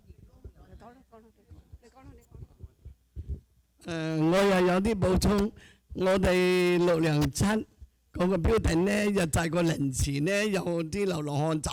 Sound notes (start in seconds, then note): 3.7 speaking Chinese dialect